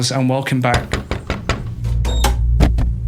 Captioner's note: door Knock